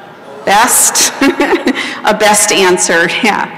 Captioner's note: laughter